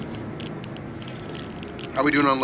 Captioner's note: geiger counter clicking